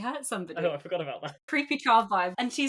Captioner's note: laughing